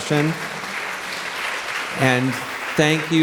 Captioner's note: audience clapping